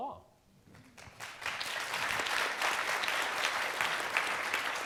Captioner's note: audience applauding